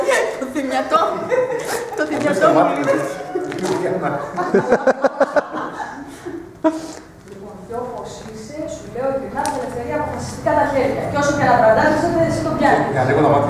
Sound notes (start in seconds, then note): 0.8 laughs